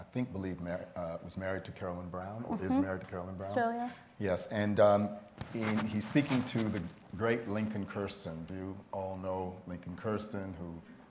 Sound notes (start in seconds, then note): none